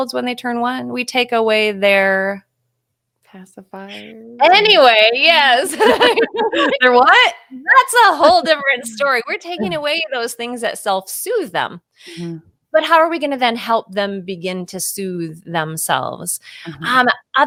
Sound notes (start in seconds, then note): 5.6 both laughing; 7.7 laughing